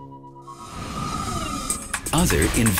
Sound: whirring

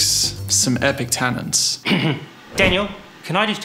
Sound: clearing throat; air swooshing

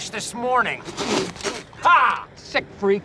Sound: spitting

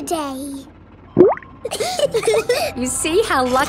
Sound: bubbles; laughing

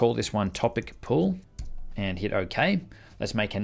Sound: typing

